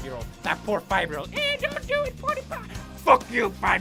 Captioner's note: childish voice